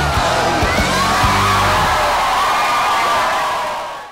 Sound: screaming

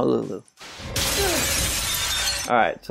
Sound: glass shattering

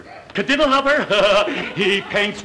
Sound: Stevens cackling

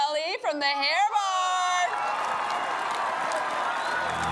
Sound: cheering

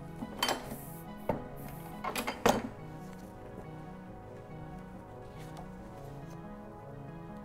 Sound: rhythmic instrumental music; ink press clanks

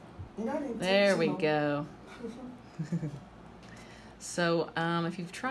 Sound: laughs

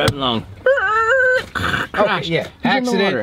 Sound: man squealing

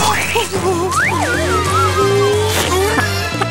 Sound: whimpering

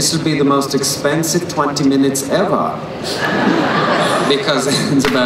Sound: crowd laughs

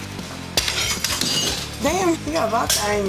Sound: glass breaking

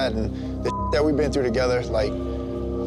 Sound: beep

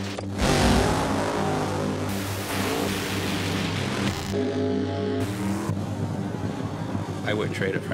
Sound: engine revving

